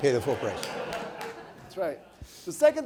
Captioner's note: audience laughing